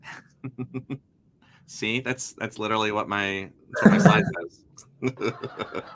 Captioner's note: laughs; crowd giggles